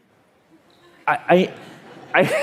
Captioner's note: laughter